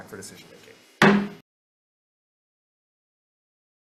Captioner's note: gavel bangs